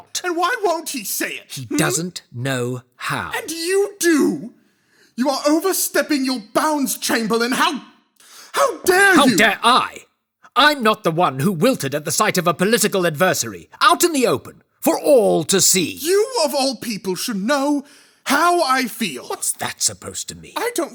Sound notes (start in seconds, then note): 9.4 raises voice